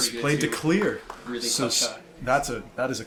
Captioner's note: applause in background